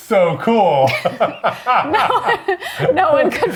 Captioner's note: both laughing